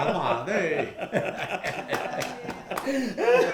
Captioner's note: both laugh